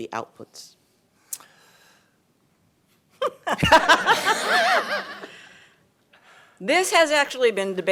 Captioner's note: laughter